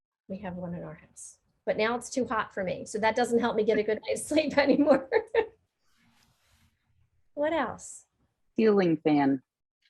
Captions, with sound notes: We have one in our house. But now it's too hot for me. So that doesn't help me get a good night's sleep anymore (laughing). What else? Ceiling fan.